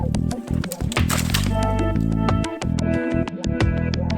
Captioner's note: tree cracking